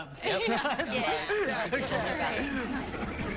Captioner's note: laughter